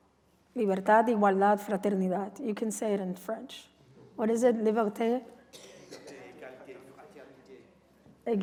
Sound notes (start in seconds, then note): 0.8 non-english speech; 4.7 non-english speech